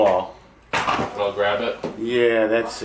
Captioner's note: male Voice